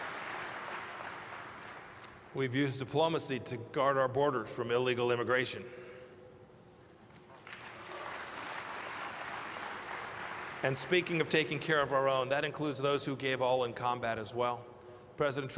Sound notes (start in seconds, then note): 7.1 applause